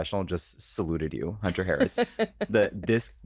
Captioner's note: laughs